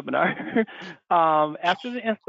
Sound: laughs

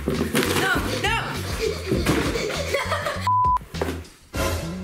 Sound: girl panting and laughing

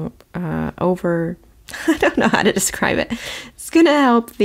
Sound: laughs

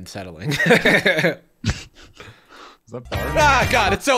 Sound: laughter

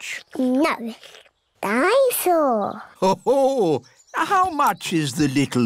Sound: daddy pig laughs

